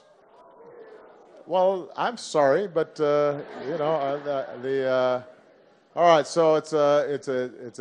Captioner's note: laughter